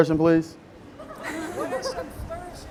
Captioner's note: all laughing